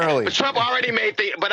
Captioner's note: laughter